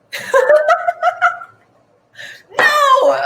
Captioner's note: all laugh